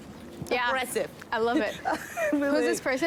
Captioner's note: laughs